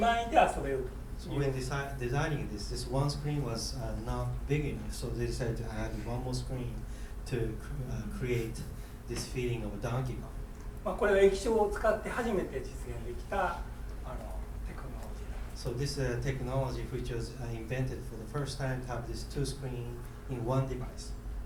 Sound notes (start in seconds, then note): 11.0 speaking in foreign language